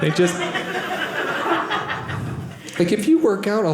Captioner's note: audience laughing